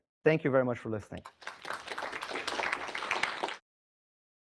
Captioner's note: applause